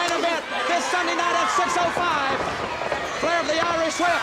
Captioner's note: footsteps plodding